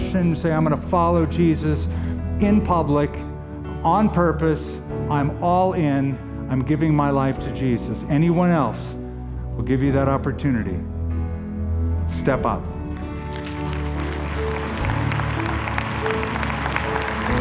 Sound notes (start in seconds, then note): 12.9 applause